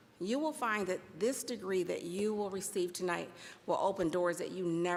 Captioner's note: none